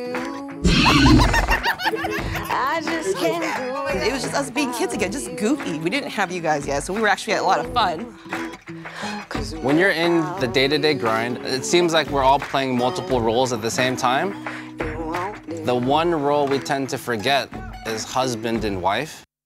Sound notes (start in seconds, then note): 0.6 raptor roars; 0.6 mom laughs